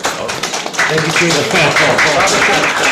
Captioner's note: audience applauding